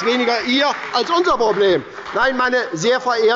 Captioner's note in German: Beifall bei der SPD und der LINKEN